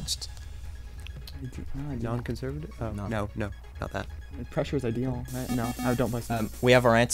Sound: wispering

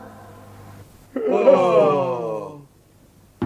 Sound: all yawn

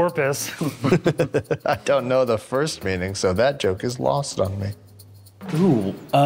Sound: chuckle

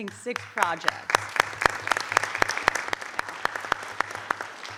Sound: audience applauding

